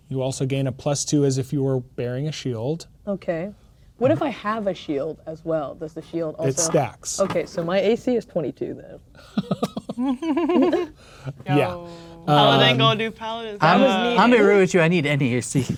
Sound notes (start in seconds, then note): 9.2 laughing